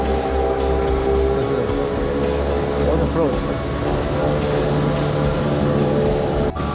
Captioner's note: A yacht roars past